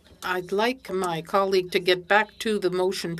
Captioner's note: speaking French